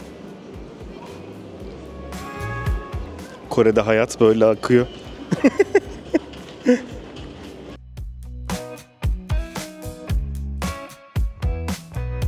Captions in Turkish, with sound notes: Kore'de hayat böyle akıyor. [kahkaha]